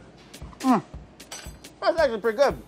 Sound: hums

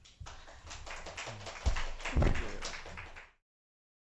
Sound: applause

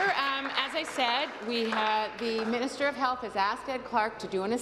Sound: applause

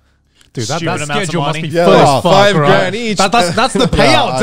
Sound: group chattering

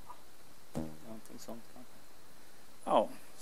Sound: dad is camera shy and speaks softly

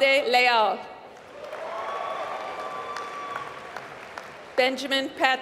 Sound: applause

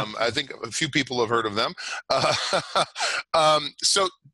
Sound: laughing

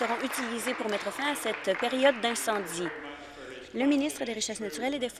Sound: applause

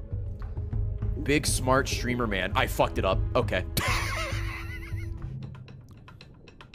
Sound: laughs

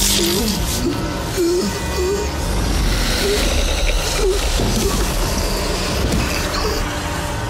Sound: intense grunting

